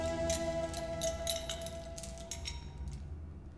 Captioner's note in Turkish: Zincir sesi